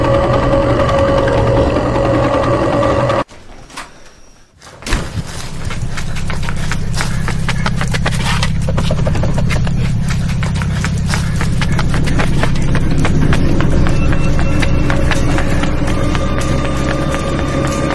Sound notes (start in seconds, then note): 5.2 creature groans; 5.2 suspenseful music